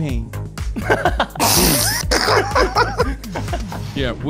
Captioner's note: laughing